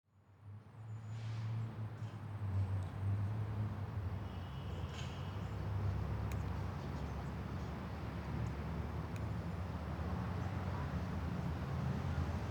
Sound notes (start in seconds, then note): 3.7 cars driving